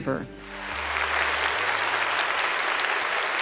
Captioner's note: applause